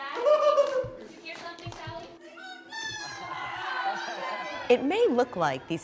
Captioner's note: students screeching and laughing